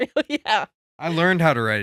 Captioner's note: laughing